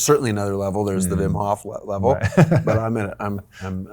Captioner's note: laughing